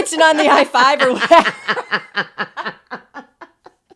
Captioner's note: laughing; both laughing